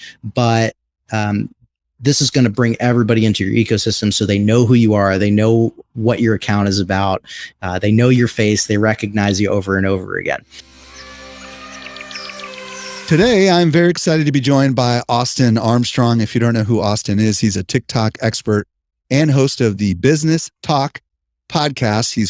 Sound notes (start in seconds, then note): 10.8 wildlife calling